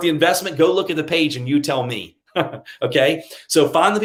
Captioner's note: chuckles